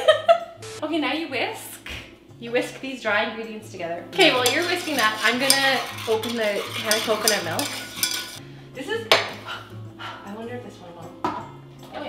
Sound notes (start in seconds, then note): 0.4 laughing; 9.6 blows